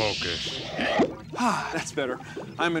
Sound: sighs

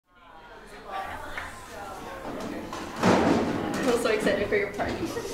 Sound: student chatter

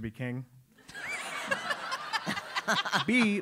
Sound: laugh

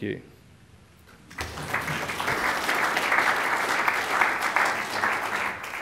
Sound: applause

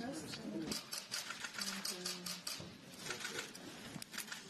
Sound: camera clicks

